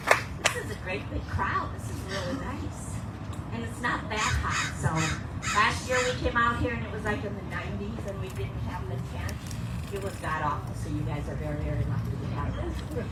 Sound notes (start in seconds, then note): 4.1 bird calling in distance